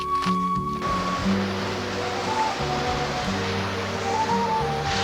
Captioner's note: engine rumbling